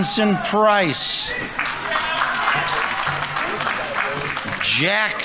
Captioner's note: audience members cheering; audience applauding